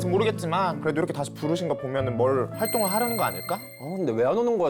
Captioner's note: hopeful sound effect